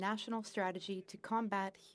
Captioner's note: speaking French